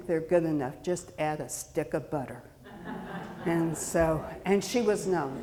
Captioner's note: audience laughing